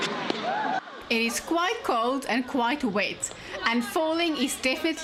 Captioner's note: narrating